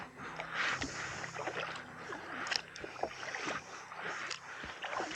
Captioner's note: paddling